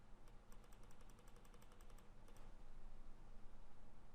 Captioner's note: mouse clicking